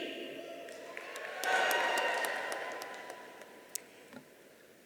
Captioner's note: audience cheering